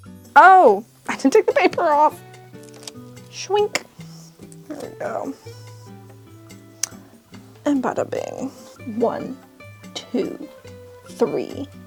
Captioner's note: gentle, upbeat music; paper peeling